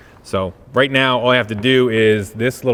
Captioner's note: none